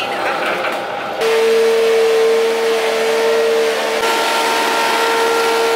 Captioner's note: grinding sound